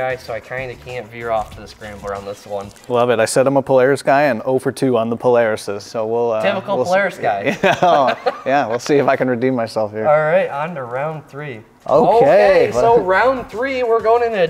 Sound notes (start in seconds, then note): 7.4 laughing